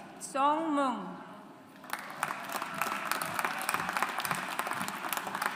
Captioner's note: audience applauds